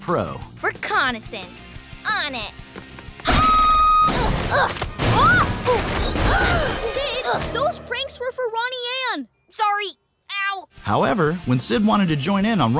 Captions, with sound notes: Reconnaissance. On it. [screaming] [gasping] Sid, those pranks were for Ronnie Anne! Sorry. Ow. However, when Sid wanted to join in on Ronnie Anne